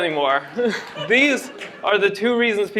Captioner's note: laughter